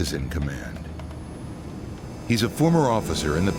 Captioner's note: humming